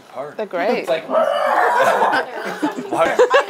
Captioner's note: mimics dinosaur